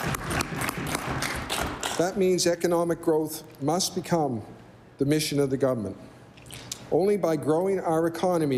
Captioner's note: applause